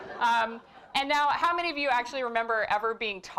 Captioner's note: laugh